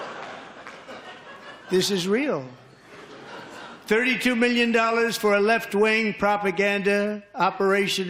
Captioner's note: laughter